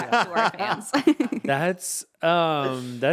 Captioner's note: laughing